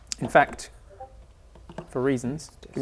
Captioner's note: Discord notification